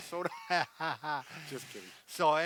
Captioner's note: both laughing